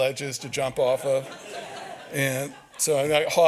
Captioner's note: audience laughs